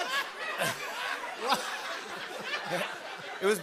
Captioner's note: laughter continues